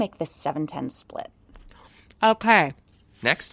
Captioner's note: eating